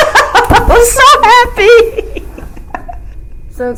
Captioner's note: laughs hard